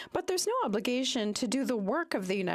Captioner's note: speaking French